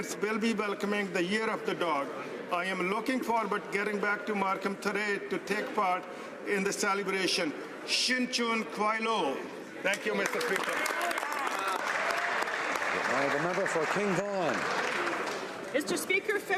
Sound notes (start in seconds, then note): 12.3 speaking alternate language; 15.3 some Applause